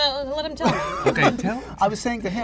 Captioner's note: laughs